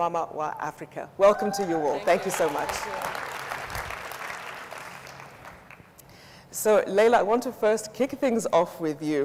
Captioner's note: audience applauds